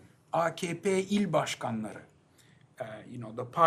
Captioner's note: non-english